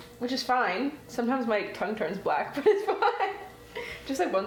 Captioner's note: laughing